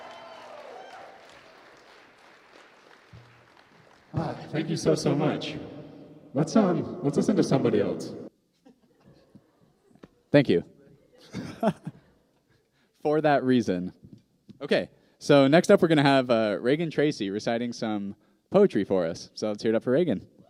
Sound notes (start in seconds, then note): 4.6 altered robotic voice